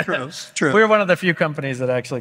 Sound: laughs

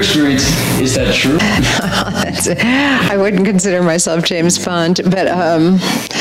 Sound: laughs

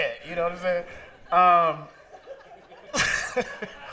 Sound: laughter

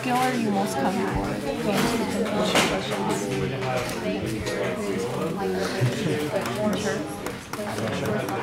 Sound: multiple students speaking in the background

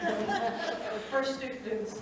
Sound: audience laughing

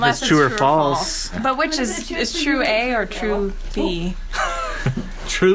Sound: laughs

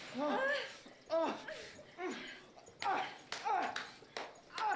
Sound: Donnie and Janine moaning

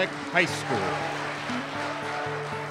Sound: applause

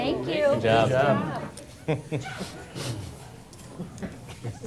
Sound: chuckles

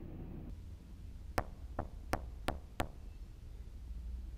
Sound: knocks

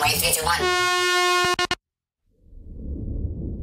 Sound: airhorn sound

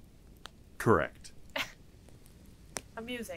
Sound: laughs

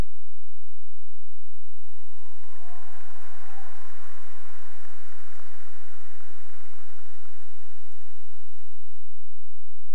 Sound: cheering and applause

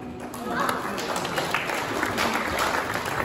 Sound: applause

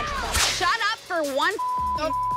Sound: beep

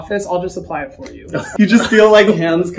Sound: laughs

